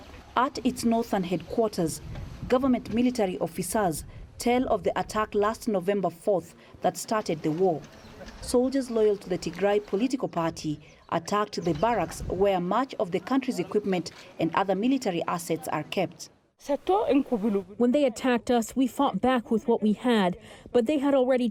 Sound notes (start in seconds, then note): 17.2 through translator